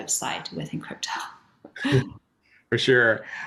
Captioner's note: chuckles